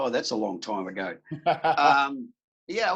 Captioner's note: laughing